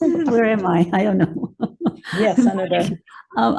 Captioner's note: chuckles